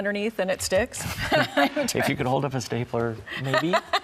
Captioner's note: both laugh